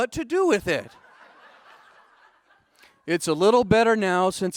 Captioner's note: audience laughing